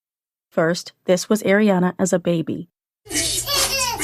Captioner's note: baby giggles